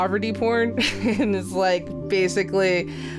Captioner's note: laughs